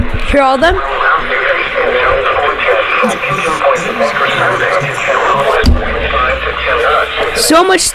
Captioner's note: radio voices